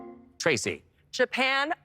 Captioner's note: electric chime